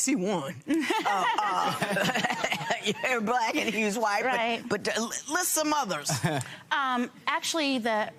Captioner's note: laughter